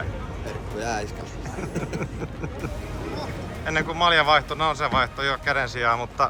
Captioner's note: laughter